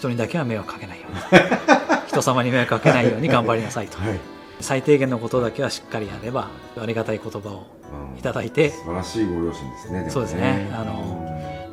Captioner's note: laughs